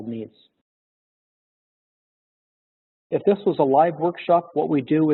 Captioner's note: pause